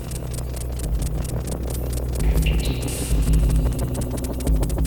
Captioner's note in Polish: Miarowe krótkie dudnienie